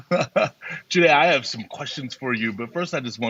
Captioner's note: laughs